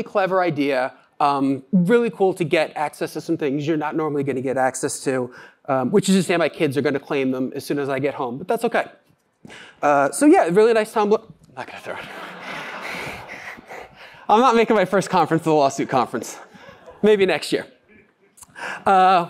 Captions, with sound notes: clever idea, really cool to get access to some things you're not normally going to get access to, which is just to say my kids are going to claim him as soon as I get home, but that's OK. So, yeah, a really nice tumbler-- not going to throw it. [LAUGHTER] I'm not making my first conference the lawsuit conference, maybe next year.